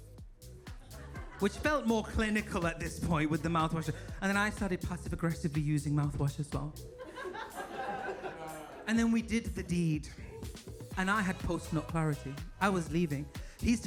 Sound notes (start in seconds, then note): 6.9 audience laughs